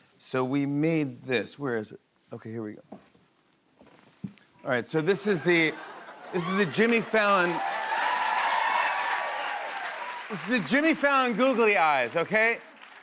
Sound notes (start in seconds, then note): 8.4 cheers and applause